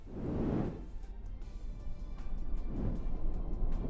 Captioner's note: air whooshing